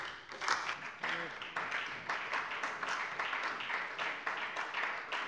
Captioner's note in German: Beifall bei der SPD